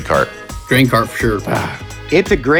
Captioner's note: sighing